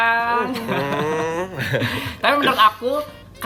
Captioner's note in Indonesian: ketawa